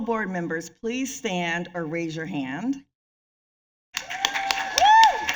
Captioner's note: applause